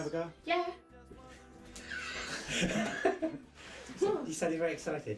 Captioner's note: laughing